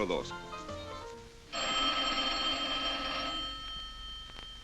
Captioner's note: speaking spanish; phone ringing